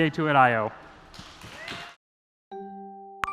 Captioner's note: applause